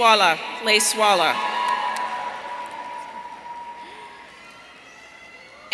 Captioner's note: audience cheering